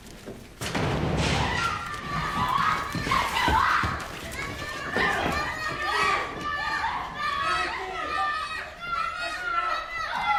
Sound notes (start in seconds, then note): 0.6 loud clattering; 0.7 woman screaming; 7.1 man shouting, indistinct